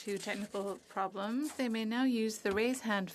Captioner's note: speaking French